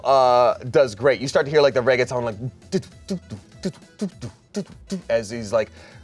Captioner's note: vocalizes